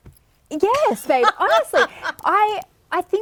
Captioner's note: laughing